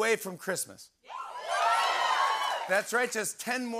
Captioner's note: cheering and applause